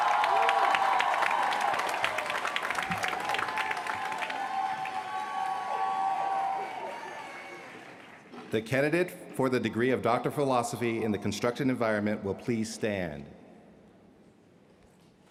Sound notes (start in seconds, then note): 0.0 applause; 4.4 cheers & applause